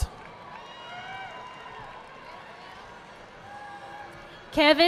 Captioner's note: audience applauding